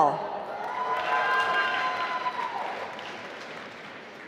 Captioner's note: applause